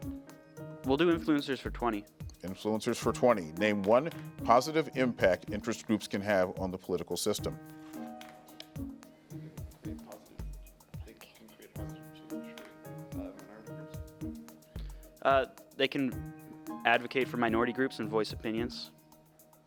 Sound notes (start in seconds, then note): 0.0 tense music; 8.5 tense music; 9.4 players whisper